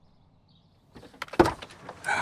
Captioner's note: car door opens